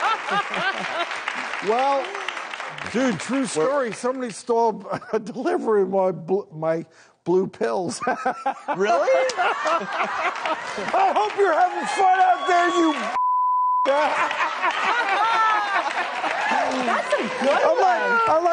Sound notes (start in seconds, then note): 0.0 laughing; 0.0 audience cheers; 8.2 laughing; 9.7 audience laughing; 13.1 beep; 13.8 laughing